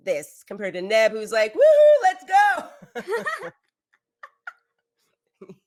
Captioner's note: laughs